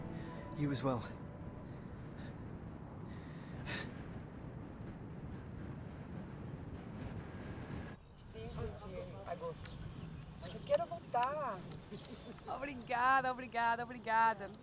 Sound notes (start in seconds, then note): 10.5 Lara speaking in Brazilian Portuguese